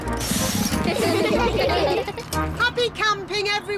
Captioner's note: all giggling